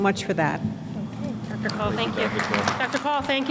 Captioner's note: applause